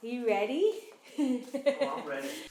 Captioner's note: chuckles